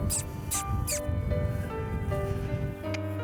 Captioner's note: trainer smooching